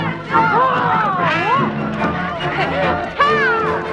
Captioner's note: Hundra growls